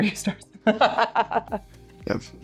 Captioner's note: laughing